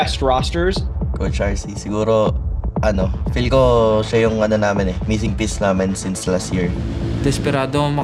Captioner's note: in Tagalog